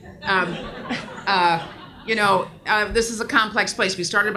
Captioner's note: audience laughs